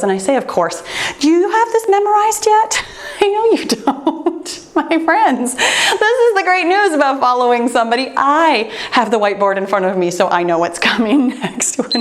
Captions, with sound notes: And I say of course, do you have this memorized yet? (chuckling) I know you don't! My friends, this is the great news about following somebody. I have the white board in front of me so I know what's coming next.